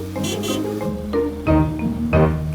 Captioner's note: horn honking